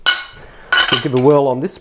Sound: clanging

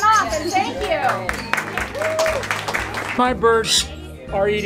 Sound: applause

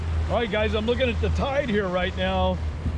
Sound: boat engine running

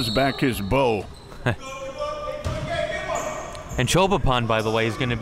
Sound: laughing

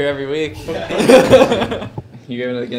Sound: crowd laughing

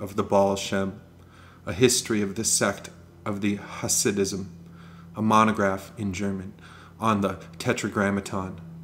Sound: in German

